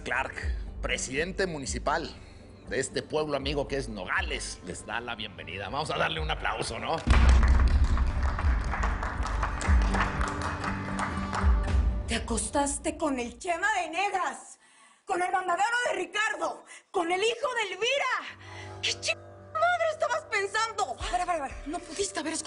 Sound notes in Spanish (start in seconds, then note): 8.4 Aplausos